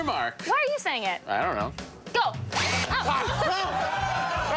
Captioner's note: applause